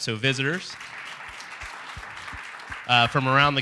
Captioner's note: applause